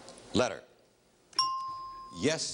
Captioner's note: ringing bell